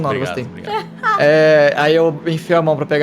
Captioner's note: Kalera laughs